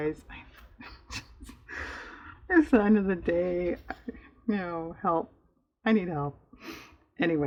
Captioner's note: laughs